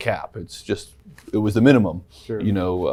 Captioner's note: none